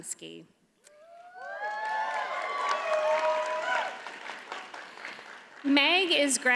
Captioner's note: audience cheers and applauds